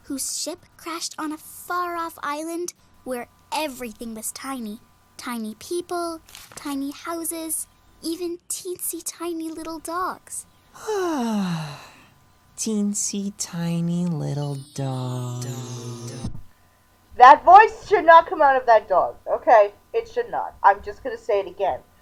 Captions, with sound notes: whose ship crashed on a far-off island where everything was tiny. Tiny people, tiny houses, even teensy-tiny little dogs!" - (content sigh) Teensy-tiny little dogs... ("dogs" echoes) THAT VOICE SHOULD NOT COME OUT OF THAT DOG. Okay? It should not. I'm just gonna say it again.